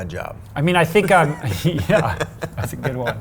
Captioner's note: laughs